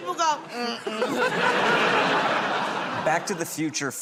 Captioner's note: laughter